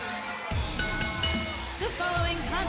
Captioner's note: bell